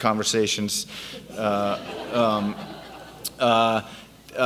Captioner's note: audience laughs